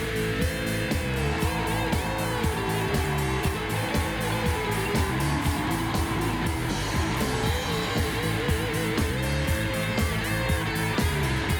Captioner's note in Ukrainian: оплески